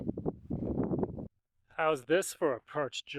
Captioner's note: wind howling